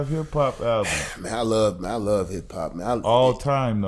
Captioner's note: exhales